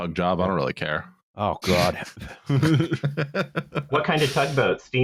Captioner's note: laughter